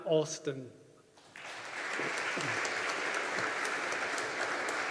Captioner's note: audience applauding